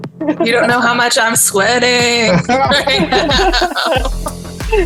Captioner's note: laughter